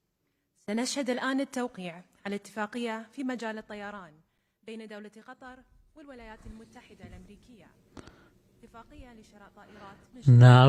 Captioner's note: foreign lnaguage